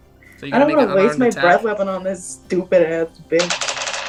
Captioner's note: beep; dice rolling